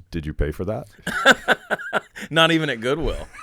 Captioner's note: laughing